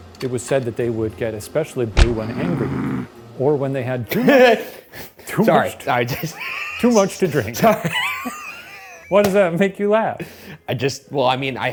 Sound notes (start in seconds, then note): 6.0 laughing